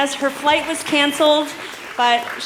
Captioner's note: cheers